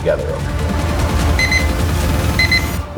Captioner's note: beeping